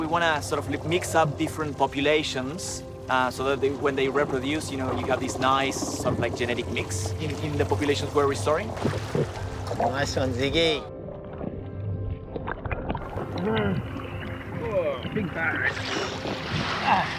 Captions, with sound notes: So we want to sort of mix up different populations so that when they reproduce, you know, you got these nice sort of like genetic mix in the populations we're restoring. Nice one, Ziggy. (BOTH GROAN) Big batch. (GROANS)